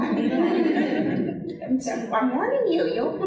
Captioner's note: audience laughing